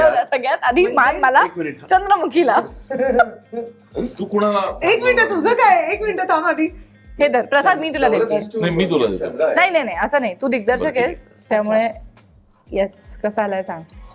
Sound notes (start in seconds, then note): 2.5 chuckles